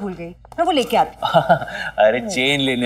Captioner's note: Chuckles